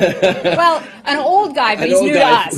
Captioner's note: laughter